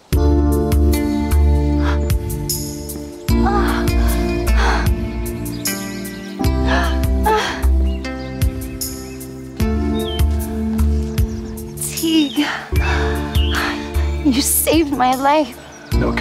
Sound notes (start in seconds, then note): 0.3 romantic music; 6.6 Carol gasping